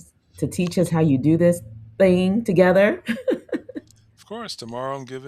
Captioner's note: laughs